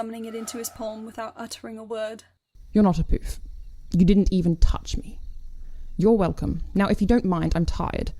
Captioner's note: broom whooshes